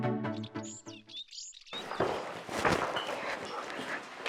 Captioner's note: birds chirp